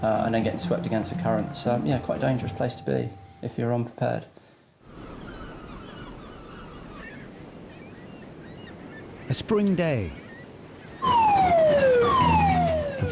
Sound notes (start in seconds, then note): 5.0 seagulls shrieking; 11.0 siren blaring